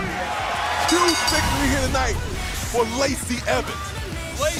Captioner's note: bell ringing